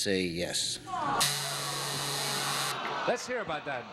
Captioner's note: buzzer sounds